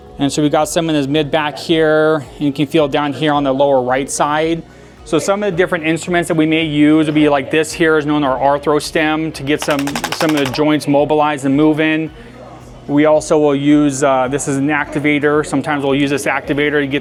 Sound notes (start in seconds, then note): 9.6 tool buzzing